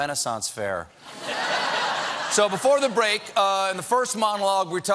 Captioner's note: laughter